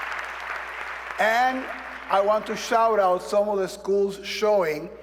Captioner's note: applause